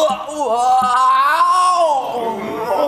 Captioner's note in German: würgt